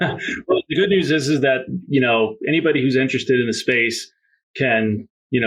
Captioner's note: laughs